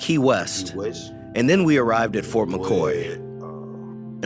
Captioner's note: through translator